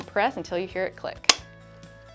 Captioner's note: pad-pak clicks in place